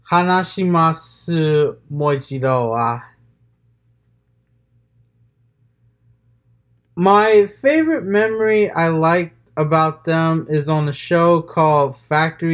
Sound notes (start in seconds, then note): 3.0 transitioning from japanese to english